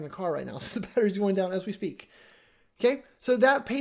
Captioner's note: chuckles